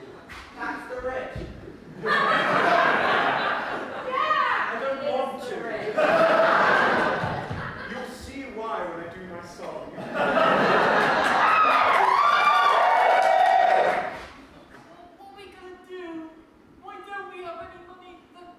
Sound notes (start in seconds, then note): 1.9 laughter; 10.1 laughter and whoops, applause